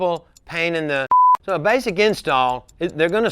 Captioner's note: beep